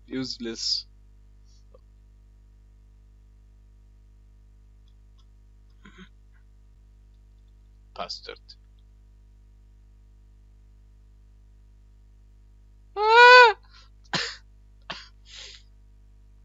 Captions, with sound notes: Useless... Bastard *pathetic scream*